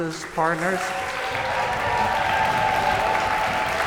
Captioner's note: cheers and applause